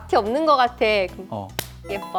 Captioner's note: clap